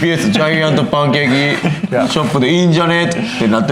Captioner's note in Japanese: 笑い